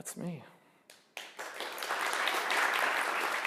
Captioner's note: audience applauding